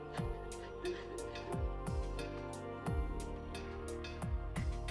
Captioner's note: faint sobbing